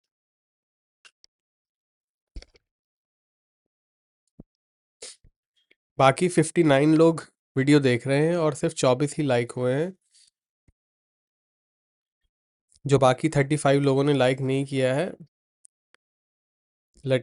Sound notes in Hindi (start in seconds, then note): 5.0 नाक से की जाने वाली आवाज़